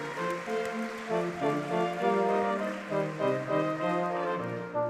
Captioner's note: audience clapping